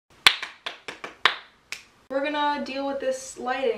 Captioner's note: clap clap clap clap snaps